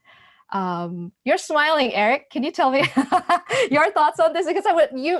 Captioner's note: laughs